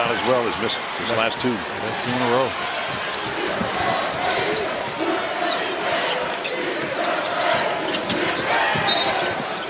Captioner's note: whistle